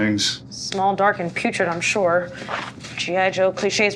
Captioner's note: urinating continues; zipper